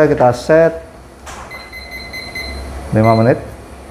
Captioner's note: beeping sound